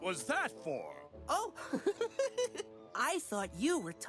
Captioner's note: laughs